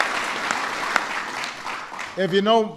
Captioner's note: applause